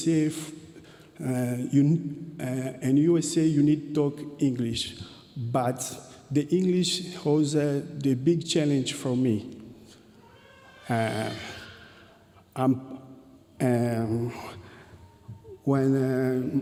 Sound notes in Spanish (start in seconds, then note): 8.3 continúa hablando en inglés